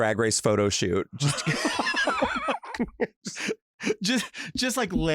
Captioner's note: laugh